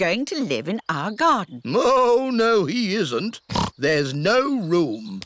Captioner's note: oinks